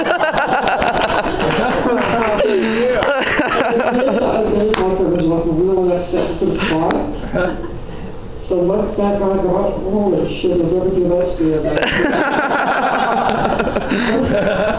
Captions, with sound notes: The looks that guy got! Holy shit, he’ll never do that to me again. [laughter]